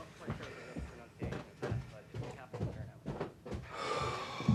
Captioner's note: footsteps thudding; both sigh